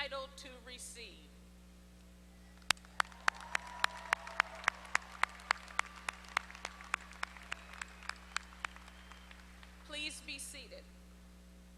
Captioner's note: applause